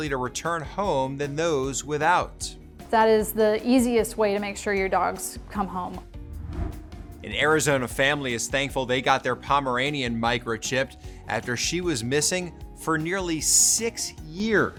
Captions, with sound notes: to return home than those without. - That is the easiest way to make sure your dogs come home. (transition whooshes) - An Arizona family is thankful they got their Pomeranian microchipped after she was missing for nearly six years.